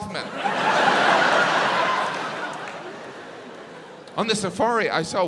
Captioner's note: audience laughs